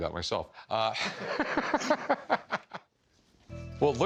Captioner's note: laughter